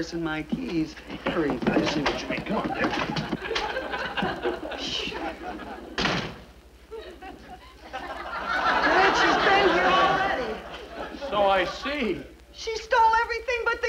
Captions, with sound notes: Hurry. - I see what you mean. Come on dear. (door bangs) (audience laughs) - Midge has been here already. - So I see. - She stole everything but the kitchen sink!